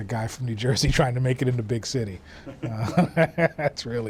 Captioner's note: laughs